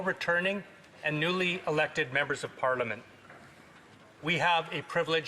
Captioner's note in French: voix de l'interprète